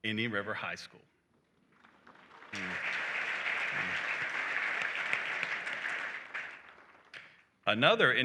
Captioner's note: applause